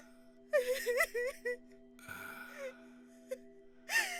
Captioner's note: sarah crying